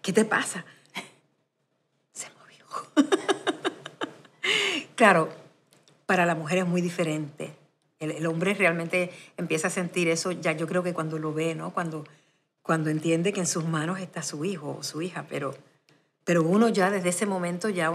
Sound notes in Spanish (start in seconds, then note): 2.8 Se ríe